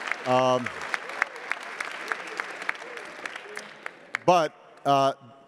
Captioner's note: attendees applauding